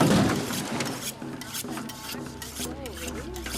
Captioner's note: rhythmic metallic scraping